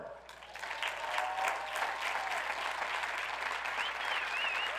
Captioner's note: audience applauds